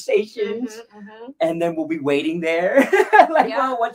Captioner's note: laughs